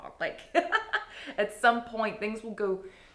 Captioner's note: laughing